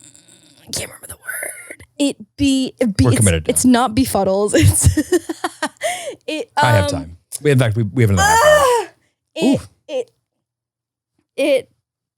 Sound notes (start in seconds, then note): 4.5 laughing; 8.1 yelping